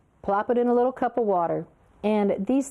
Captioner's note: none